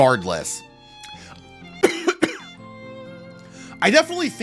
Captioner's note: cough